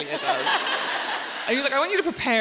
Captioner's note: audience laughing